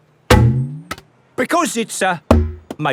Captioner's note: thunks